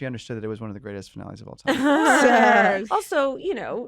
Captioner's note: laughter